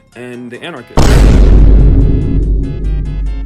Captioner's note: vine boom cut to meme